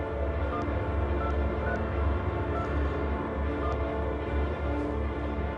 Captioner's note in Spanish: Sonido al marcar